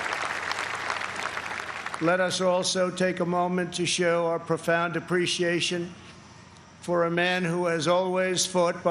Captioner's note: applause